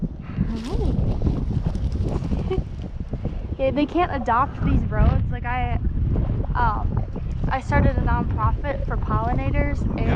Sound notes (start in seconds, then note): 2.4 laughs